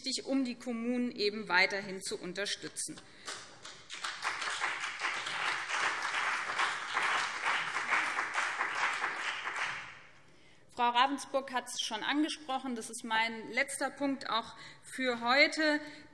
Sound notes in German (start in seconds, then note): 3.6 Beifall BÜNDNIS 90/DIE GRÜNEN und CDU